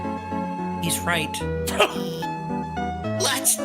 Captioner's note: laughs